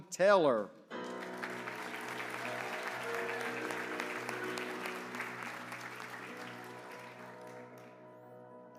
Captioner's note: applause